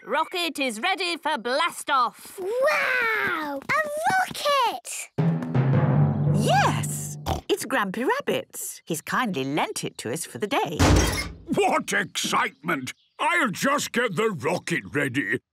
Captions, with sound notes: - Rocket is ready for blast off! - Wow! A rocket! - Yes, it's Grampy Rabbit's. He's kindly lent it to us for the day. - (metallic door bursting) - What excitement! I'll just get the rocket ready